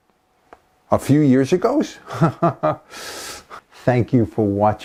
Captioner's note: haha